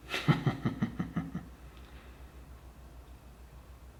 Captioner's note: laughs dryly